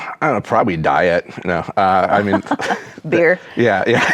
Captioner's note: chuckles; laughs